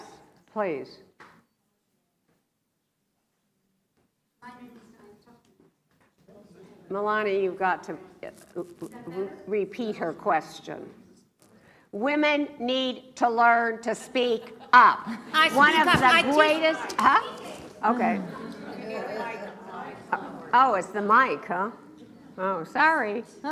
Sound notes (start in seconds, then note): 12.2 talking loudly; 18.7 laughs